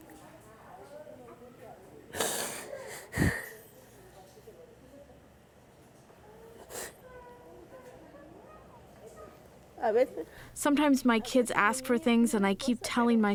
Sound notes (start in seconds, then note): 1.9 through translator